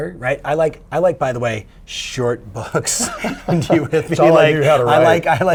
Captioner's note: laughing